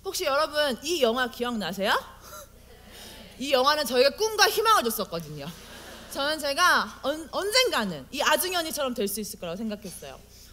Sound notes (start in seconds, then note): 5.5 audience : Laugh